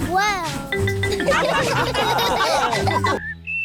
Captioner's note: laughter